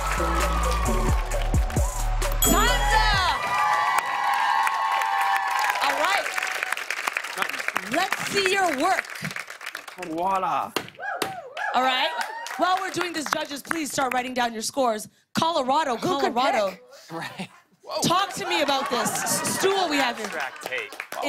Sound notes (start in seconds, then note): 0.2 cheers and applause; 2.4 ding; 3.5 cheers and applause